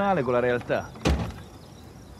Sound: door slams

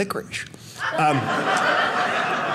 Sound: audience laughing

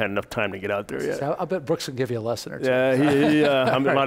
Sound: laughs

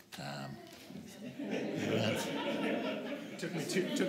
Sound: laughter

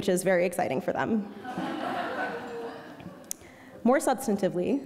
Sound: audience laughing

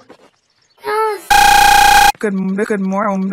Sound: distorted stuttering

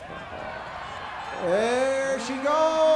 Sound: crowd cheers

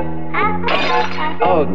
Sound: bottle Broken

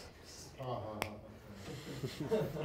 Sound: sarcastic; laughter

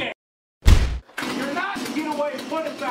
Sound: chainsaw finally starts

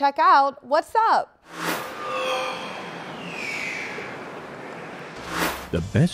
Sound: sound Effects

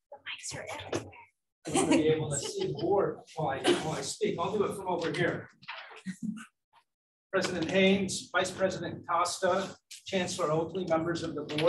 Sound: speaking away from mic

